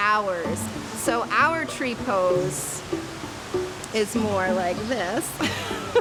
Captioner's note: laughing